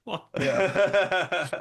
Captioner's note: laughter